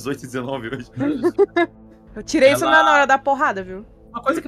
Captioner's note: laughter